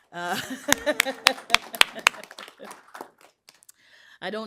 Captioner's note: applause; laughs